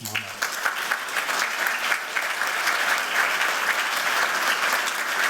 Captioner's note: applause